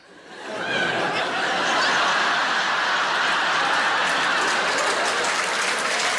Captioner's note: audience laughing and applauding